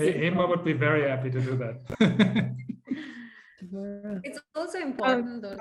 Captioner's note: panel laughs; laughs